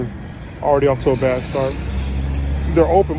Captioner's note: car engines rumbling